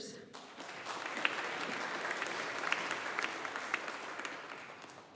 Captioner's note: audience applauding